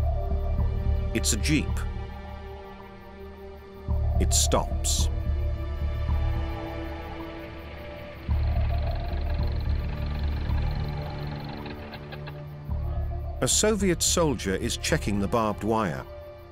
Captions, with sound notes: It's a jeep. It stops. [engine idles] [engine stops] A Soviet soldier is checking the barbed wire.